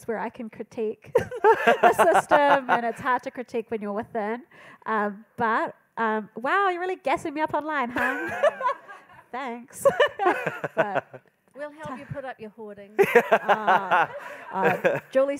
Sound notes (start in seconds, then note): 12.5 speaks in Maori; 13.0 panellists laughing